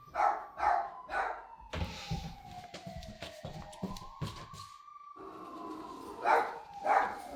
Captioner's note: barking; police sirens continue; barking continues